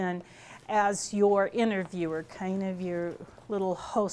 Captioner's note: none